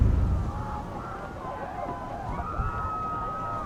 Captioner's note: screaming